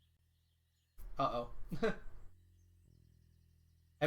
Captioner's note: chuckles